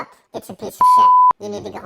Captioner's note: beep